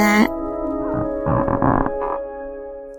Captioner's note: sighs; floor creaks slightly